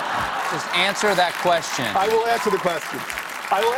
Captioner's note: applause